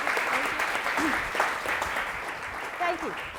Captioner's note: applause